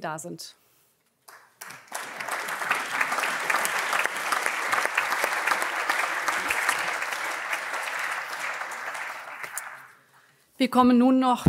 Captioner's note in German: Allgemeiner Beifall